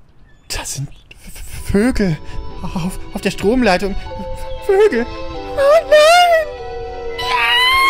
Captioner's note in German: Panischer Schrei